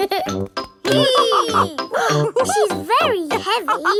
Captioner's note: both straining; giggles; madam gazelle laughing